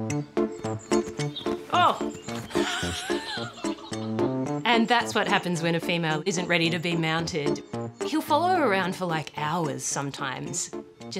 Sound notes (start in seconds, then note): 1.7 laughs